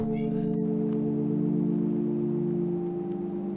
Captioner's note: soft wind